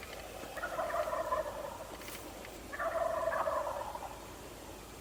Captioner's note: turkeys gobbling lightly